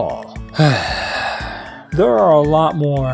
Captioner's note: sigh